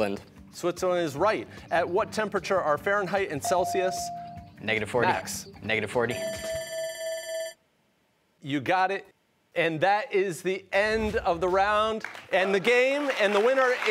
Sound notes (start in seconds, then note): 6.1 bell ringing